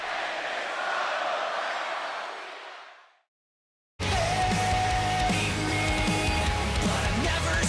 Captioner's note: fans chanting